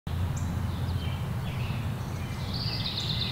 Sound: birds chirping

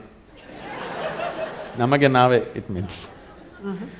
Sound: laughter; in Kannada

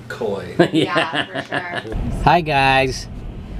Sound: laughing

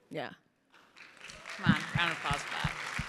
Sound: crowd applauding

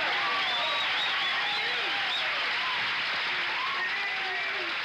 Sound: audience applauds

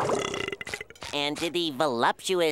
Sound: burping

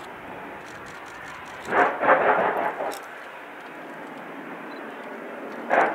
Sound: plowing in distance

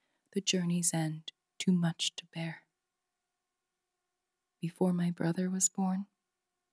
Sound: none

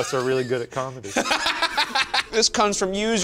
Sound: laughs

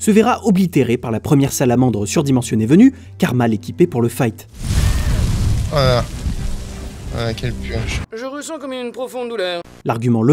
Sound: french suffering noises

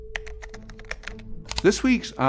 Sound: keyboard clicking

